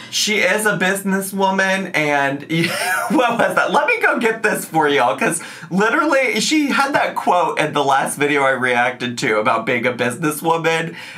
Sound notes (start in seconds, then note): 2.6 laughs